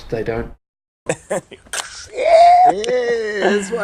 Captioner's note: laughter; beer can opening